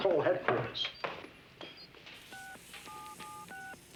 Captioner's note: beeps